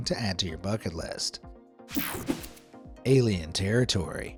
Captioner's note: graphics whooshing